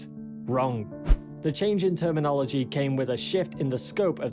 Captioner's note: screen swishes